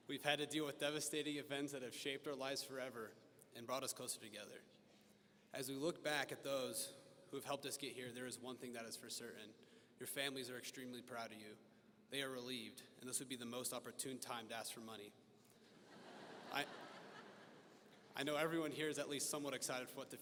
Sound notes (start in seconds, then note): 15.8 audience laughing